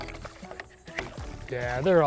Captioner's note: water splashing